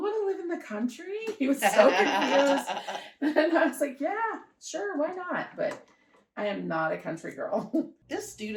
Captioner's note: laughter